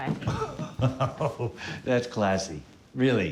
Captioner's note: laughing softly